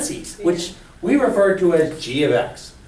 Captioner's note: voiceover